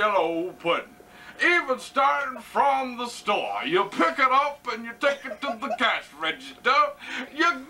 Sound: uncontrolled giggling from the background!

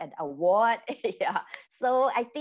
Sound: giggles

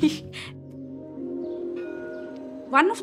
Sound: laughs; tram bell rings

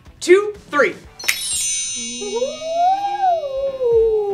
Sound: sparkle sound

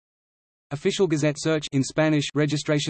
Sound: in Arabic

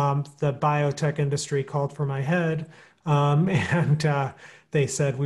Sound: chuckling

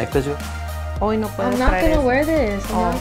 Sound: speaks in foreign language

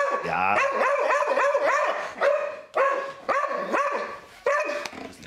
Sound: Marti barks; Marti continues barking

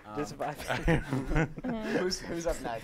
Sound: laughs

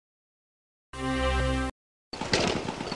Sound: triumphant ding

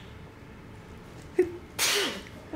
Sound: laughs; sneeze

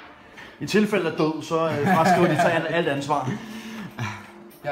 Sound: laughs

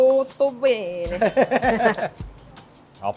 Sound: laughing

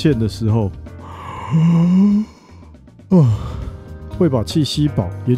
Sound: yawning

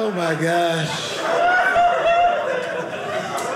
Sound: audience laughing

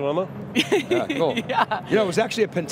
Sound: laughing

